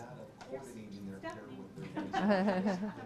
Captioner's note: laughs